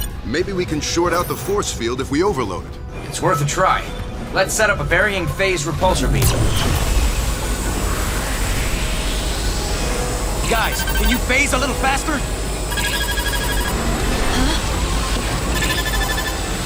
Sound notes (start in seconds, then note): 13.4 beeping